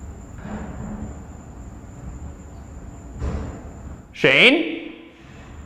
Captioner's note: mysterious knocking downstairs